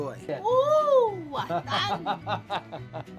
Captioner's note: laughter